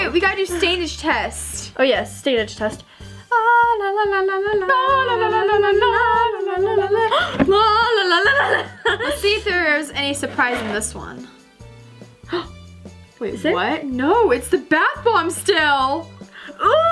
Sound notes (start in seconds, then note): 3.3 both girls singing tuneless la la las; 12.4 gasps